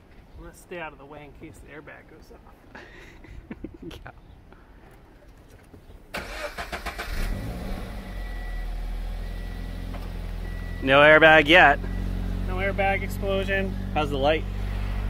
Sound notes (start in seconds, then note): 2.8 nervous laughter; 6.4 car starts up